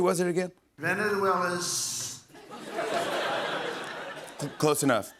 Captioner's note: laughter